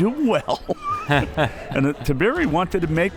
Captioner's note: both laughs